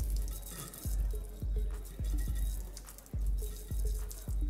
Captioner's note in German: Wasser plätschert